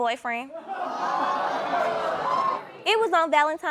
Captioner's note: audience exclaiming